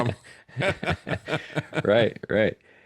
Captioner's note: laughing